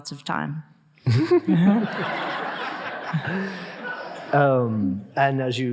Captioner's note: audience laughing